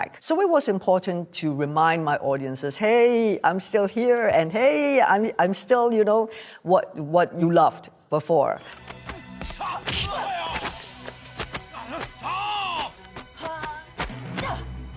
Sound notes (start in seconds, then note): 8.9 smacking; 8.9 grunting